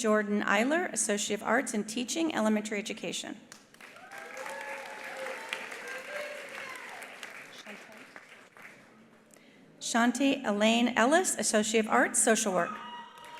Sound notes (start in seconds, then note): 3.6 attendees applauding; 3.9 attendees cheering; 12.6 attendees cheering